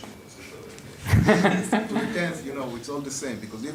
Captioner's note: laughter